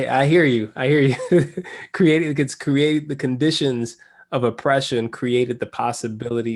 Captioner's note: laugh